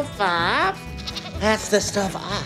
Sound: goat bleating

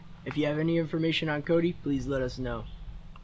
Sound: none

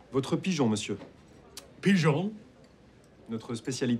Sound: French accent

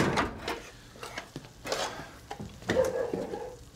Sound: barking

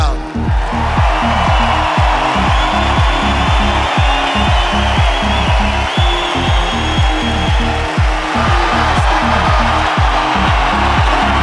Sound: applause

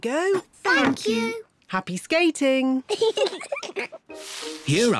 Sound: giggles

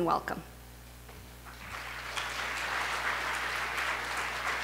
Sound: applause

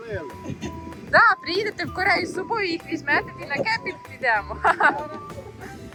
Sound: laughs

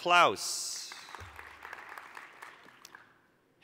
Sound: applause

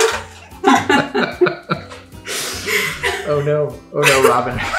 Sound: laughing

